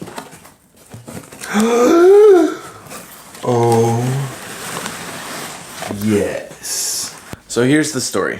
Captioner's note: gasp